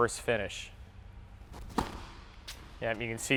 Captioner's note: ball striking racket